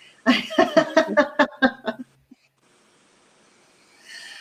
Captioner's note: laughing